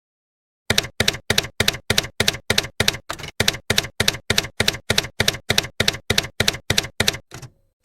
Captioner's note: typewriter keys clacking